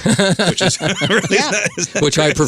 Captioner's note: laughing